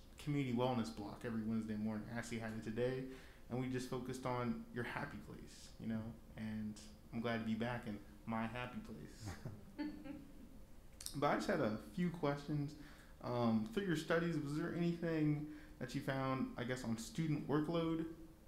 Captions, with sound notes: community wellness block block every Wednesday morning. Actually had it today, and we just focused on your happy place, and I'm glad to be back in my happy place. (laughs) But I just had a few questions. Through your studies, was there anything that you found, I guess on the student workload?